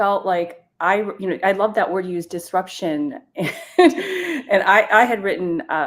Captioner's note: chuckles